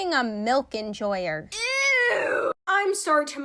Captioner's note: ewwwwww